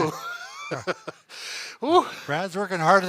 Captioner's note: both laughing